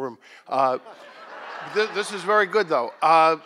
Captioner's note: audience laughs